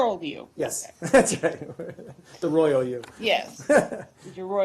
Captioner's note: laughter